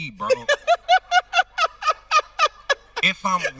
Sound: host laughing

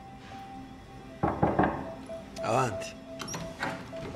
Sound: knocking at the door

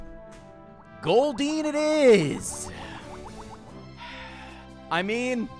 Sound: sighs

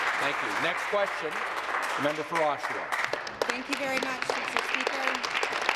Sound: applause

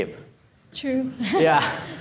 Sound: chuckling

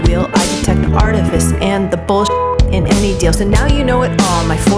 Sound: beep

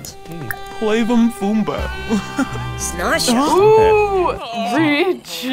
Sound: characters speaking Simlish

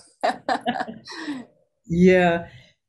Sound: both laughing

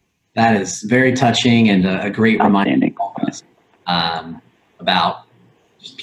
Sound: audio warps

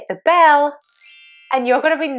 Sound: ringing bell

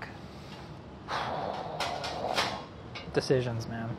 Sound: exhales

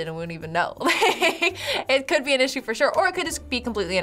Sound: laugh

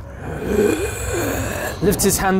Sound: raspy breathing

